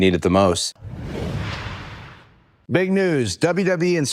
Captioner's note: logo whooshing